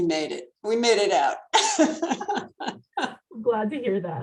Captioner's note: laughs